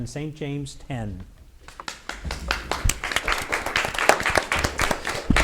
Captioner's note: audience applauds